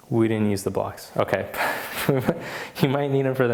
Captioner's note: laughs